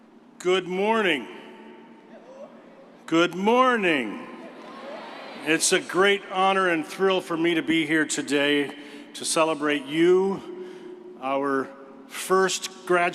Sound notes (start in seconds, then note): 3.5 crowd